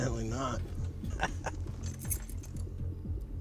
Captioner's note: laughs